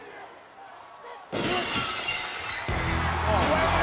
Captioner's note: glass shattering; audience cheering; rock music